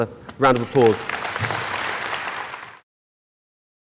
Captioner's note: applauding